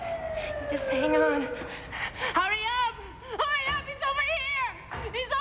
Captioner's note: sirens sound